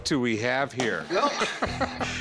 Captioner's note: laughs